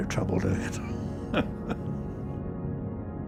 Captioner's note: chuckles